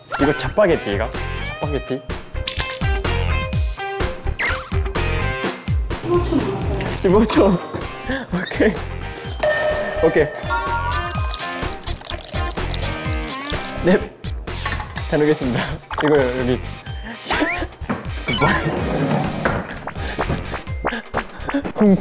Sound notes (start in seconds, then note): 10.4 pouring cold water